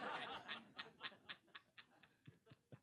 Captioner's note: laughter